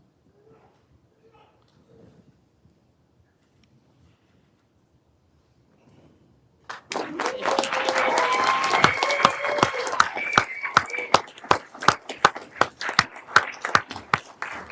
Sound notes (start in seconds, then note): 6.6 everyone applauding